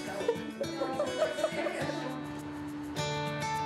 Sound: chortles

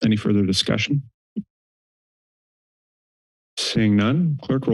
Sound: pause

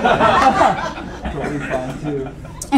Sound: laughing

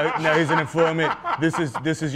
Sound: laughter

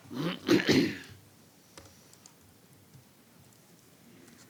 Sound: clearing throat

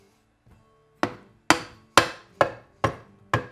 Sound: hammering

